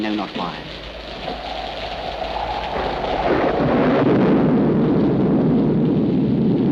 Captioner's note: thunder cracks; wind howls